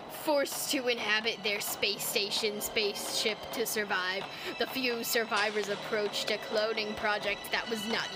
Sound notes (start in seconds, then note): 0.6 continues reading in crappy narrator voice